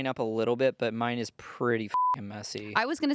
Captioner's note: beep